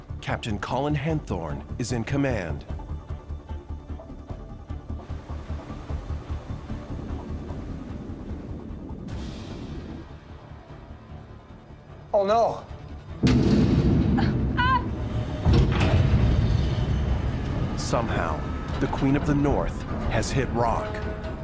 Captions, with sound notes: Captain Colin Henthorne is in command. (wind whooshing) - Oh no. (screaming) - Somehow, the Queen Of The North has hit rock.